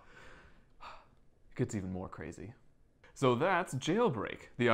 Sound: sigh

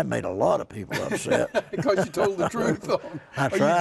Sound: laughing

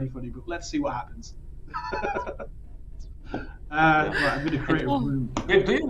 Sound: laughs

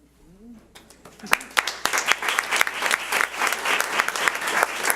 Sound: audience applauds

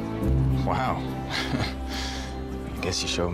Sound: chuckles ruefully

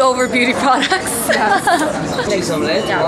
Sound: giggles

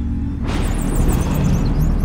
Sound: thunder clap & bats noises

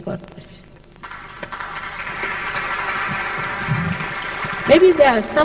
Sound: applause

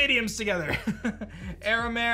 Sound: chuckles

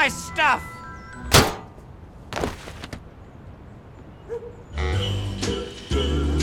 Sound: metal clang

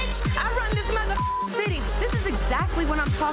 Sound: beep

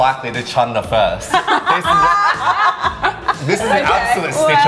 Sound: laughing

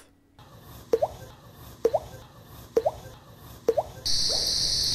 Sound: popping sound

